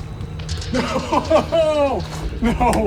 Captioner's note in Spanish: ríe